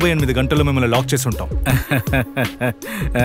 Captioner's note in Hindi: हँसते हुए